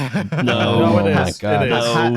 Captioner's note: laughs